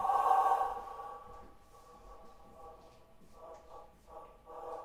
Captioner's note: dragging sound playing